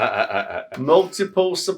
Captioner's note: laughing